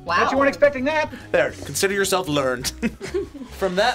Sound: laughs

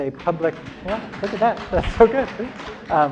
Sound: applause

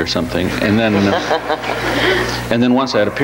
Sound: audience laughs

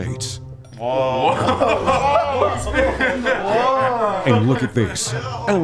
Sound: group laughter

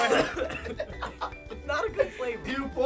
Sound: laughs

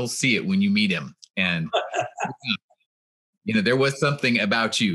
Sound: laughs

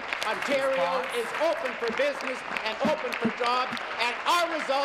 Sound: applause

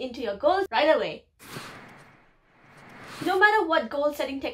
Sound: swish

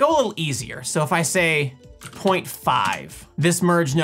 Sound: keyboard clicks

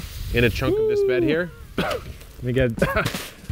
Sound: coughing loudly

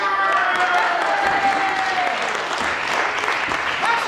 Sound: applause

